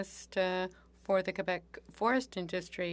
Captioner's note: speaking French